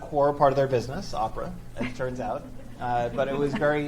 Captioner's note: audience chuckles